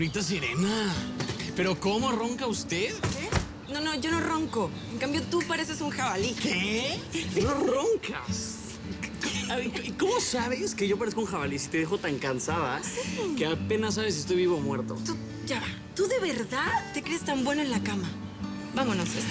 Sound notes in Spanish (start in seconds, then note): 3.0 Ruido al cerrar